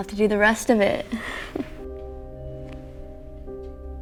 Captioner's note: chuckles